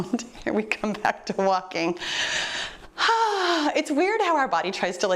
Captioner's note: sighing